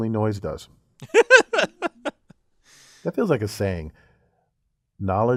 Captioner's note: laugh